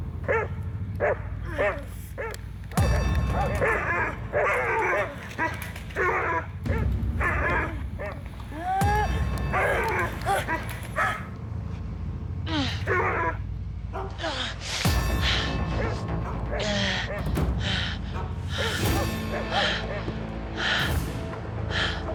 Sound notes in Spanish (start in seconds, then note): 0.2 se oyen los ladridos; 6.5 ladridos